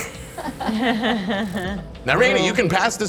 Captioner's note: group laughing